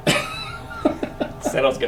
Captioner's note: laughs